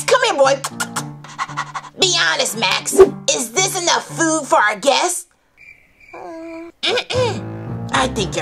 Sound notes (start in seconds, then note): 0.6 smooches; 1.4 panting; 5.5 crickets